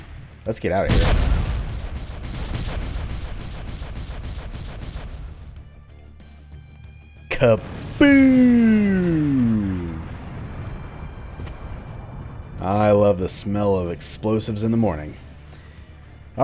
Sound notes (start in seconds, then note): 3.9 chain of explosions; 7.6 massive final explosion